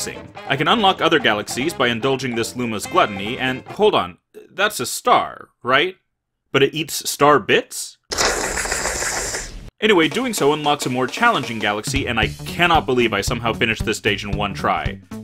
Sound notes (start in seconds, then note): 8.1 Hannibal Lecter slurping sound